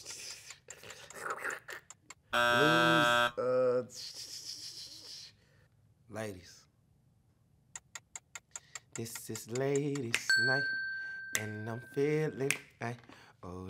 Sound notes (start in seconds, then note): 2.3 buzzer ringing; 7.7 timer ticking